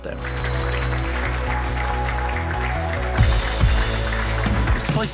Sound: applause

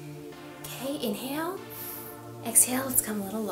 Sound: inhales slowly; exhales slowly

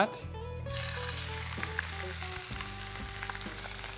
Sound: sizzling

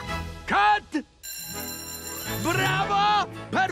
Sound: bell rings

